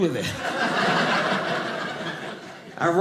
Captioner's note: audience laughing